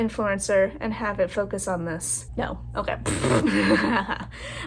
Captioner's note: laugh